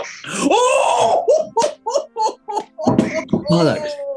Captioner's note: chortling